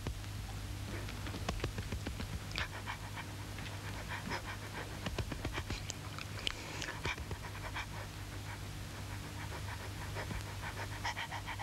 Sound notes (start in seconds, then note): 2.8 dog panting